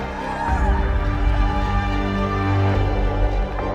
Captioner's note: crowd cheers